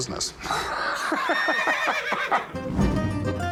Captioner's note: laughs